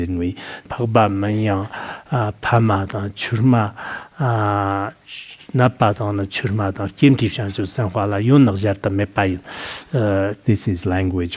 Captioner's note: citing scripture in Tibetan